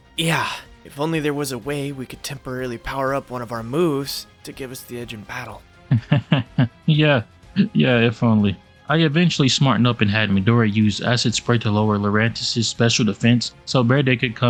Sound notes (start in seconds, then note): 5.8 nevously laughs